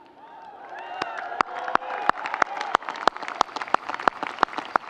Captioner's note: audience cheering